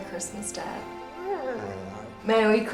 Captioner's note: dog whines